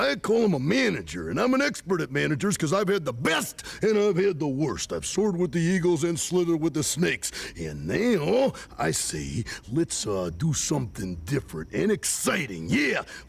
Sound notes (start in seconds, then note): none